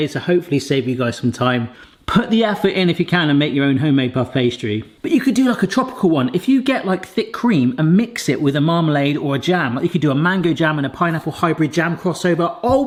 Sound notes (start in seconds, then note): none